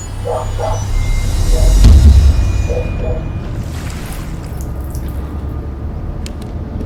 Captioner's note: disjointed music; dog barking